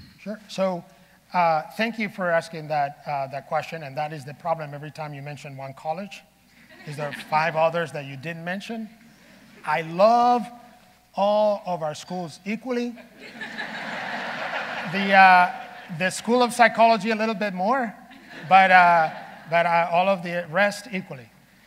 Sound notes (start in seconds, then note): 13.0 audience laughing